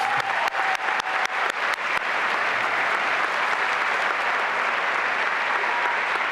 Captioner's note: applause and cheering